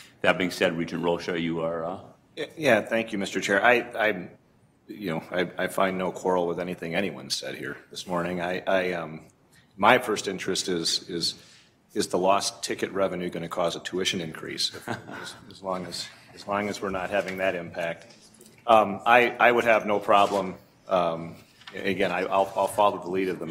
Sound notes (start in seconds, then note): 14.7 laughter